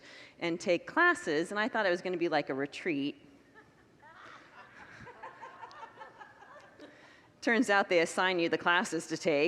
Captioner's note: congregants laugh